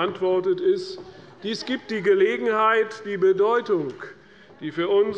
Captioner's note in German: Lachen der Abg